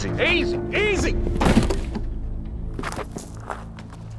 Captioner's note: thud; tense music